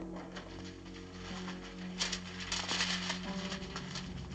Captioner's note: papers rustling